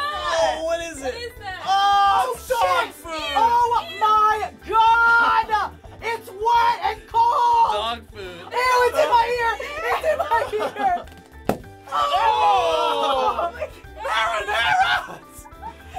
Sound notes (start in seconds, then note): 11.0 balloon popping; 15.0 giggling